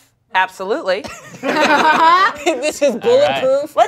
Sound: cast laughs

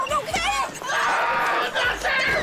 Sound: screaming

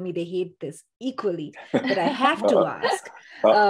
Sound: laugh

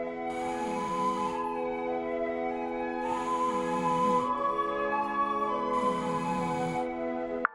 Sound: bubba snores

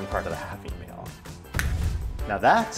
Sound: snapping

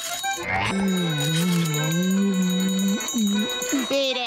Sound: bell ringing

